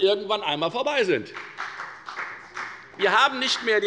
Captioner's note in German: Beifall bei der FDP